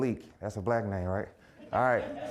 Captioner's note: audience laughing